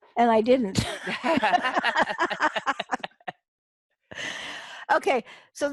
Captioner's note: laughter